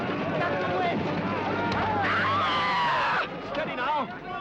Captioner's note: White Witch screams